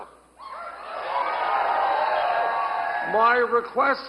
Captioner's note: audience cheers